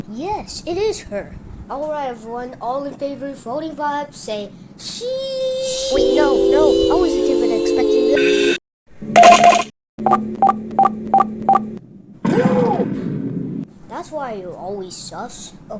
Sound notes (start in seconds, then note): 9.1 voting sounds